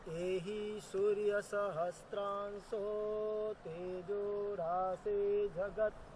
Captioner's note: chanting in foreign language